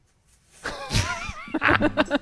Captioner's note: bushes rustling; laughing